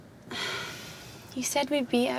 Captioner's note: Rose sighing